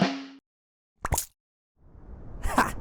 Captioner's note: tongue noise